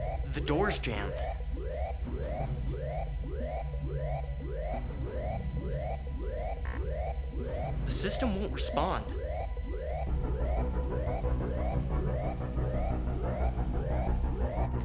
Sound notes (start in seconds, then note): 0.0 door beeps; 6.5 computer buzzes; 10.0 alarm blaring; 10.0 intense music